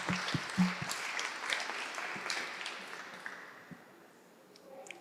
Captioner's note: applause